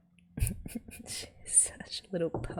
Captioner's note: laughs